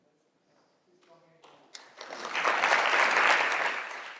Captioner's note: applause